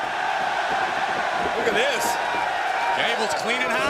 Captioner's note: crowd cheering